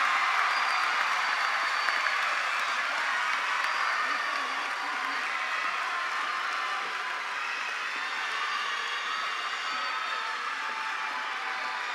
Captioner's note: cheers and applause